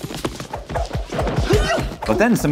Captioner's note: fighting sound effects